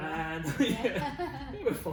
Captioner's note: both laugh